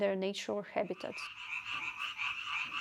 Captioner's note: sounds of frogs